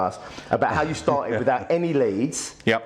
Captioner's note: laughs